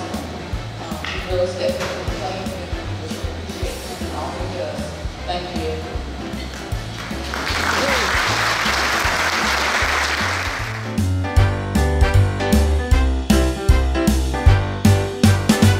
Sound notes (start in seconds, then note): 6.9 audience applauds; 11.2 fun jazz music